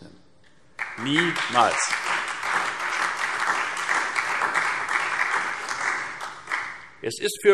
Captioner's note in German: Beifall Freie Demokraten, vereinzelt CDU und SPD